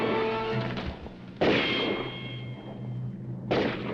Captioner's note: dramatic music; guns firing; dramatic music